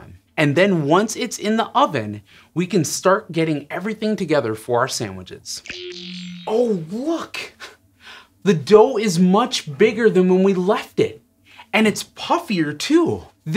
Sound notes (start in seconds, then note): 5.9 squeaks squeaks